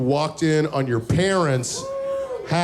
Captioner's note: crowd murmuring